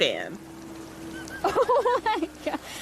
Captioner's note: Stompy making cute little chirps